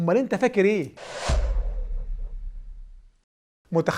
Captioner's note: sound effects